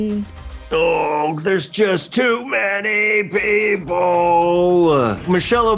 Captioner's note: groaning